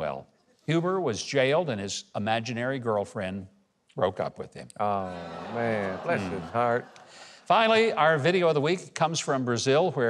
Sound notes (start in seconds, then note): 5.1 audience 'aww'ing